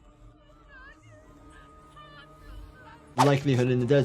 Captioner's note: character whimpering